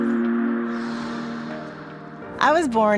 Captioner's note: gentle music; air whooshing